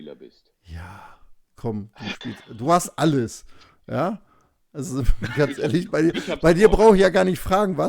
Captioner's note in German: gelächter